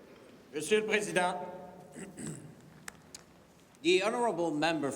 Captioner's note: clears throat